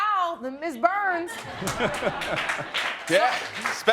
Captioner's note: laughing